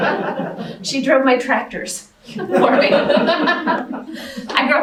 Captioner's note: laughter